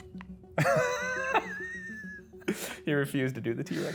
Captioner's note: laughing; laughs